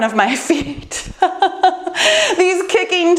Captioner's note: laughing